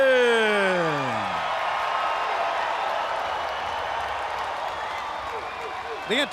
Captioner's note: crowd cheering